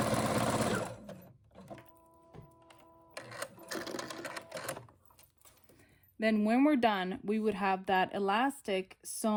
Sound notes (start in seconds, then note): 3.1 sewing machine clicking